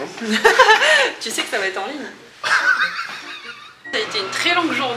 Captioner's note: laughs